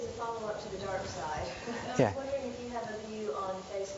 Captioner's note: laughs